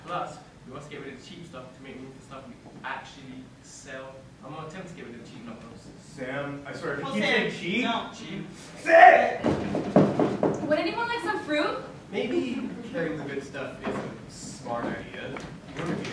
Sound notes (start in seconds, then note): 9.4 knock on door